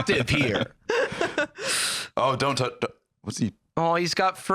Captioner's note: laughs